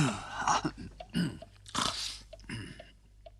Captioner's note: clears throat